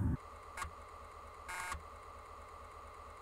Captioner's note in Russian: Бзт... Бззт